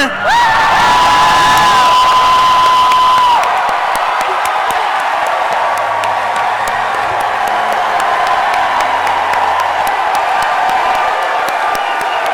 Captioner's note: cheering and chanting "Percy"